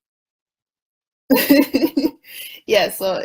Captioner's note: laughs